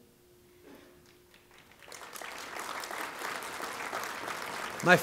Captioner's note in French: Applaudissements